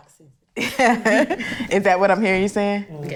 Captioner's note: laughing